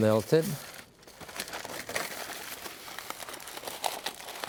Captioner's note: foil crinkling